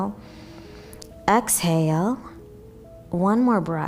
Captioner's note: inhaling